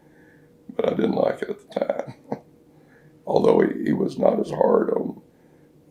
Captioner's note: laughs